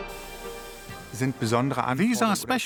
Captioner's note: man speaking in foreign language